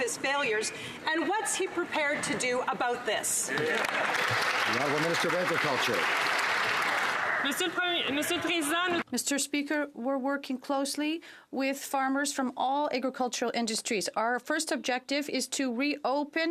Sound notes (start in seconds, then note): 6.5 some Applause